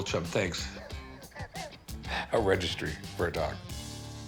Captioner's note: wheezes